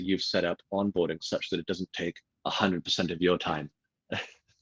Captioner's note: laughs